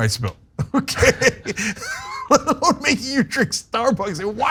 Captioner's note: laugh